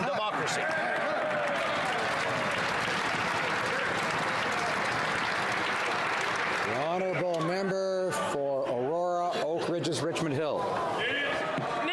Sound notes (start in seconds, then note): 4.1 some Applause